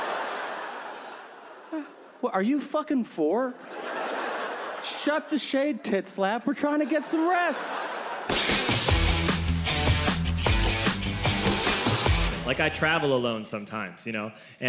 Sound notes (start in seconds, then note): 0.0 audience laughing; 3.5 audience laughing; 8.2 upbeat music